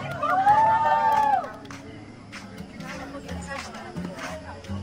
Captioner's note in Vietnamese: Vỗ tay